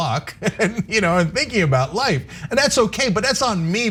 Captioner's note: laugh